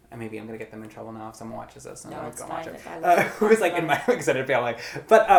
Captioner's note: laughs